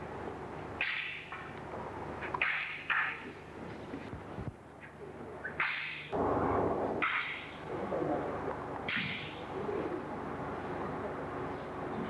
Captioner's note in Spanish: sonido de bokken chocando